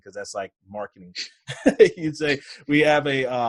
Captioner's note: laughs